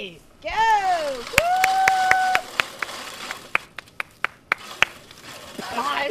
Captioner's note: cheering and clapping